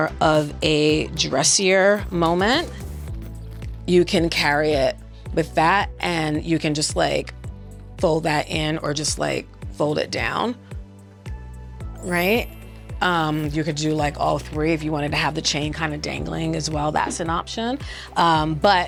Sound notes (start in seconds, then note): 12.5 chimes ringing